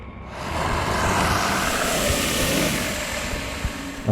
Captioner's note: alien growling